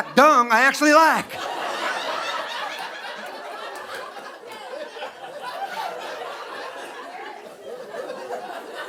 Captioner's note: audience laughing